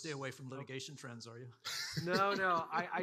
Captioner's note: laughs